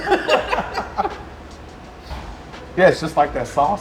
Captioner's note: all laughing